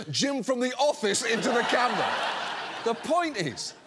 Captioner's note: audience laughs